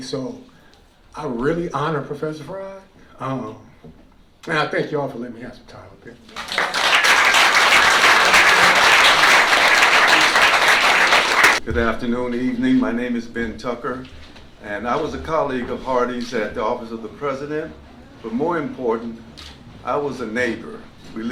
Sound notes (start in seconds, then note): 6.3 applause